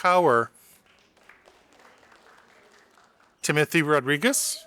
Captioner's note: audience applauding